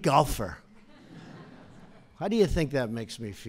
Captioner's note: laughter